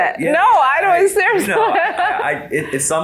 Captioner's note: laughs